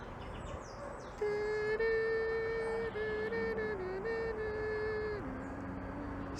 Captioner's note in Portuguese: tema do um Anel cantarolado vergonhosamente